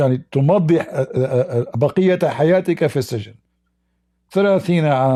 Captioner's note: Ketawa